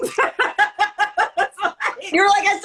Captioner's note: laughter